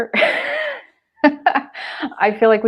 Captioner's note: laughter